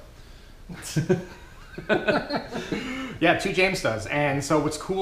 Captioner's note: laughing